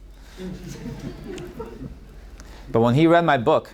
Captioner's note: audience laughing